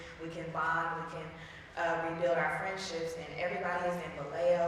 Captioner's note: none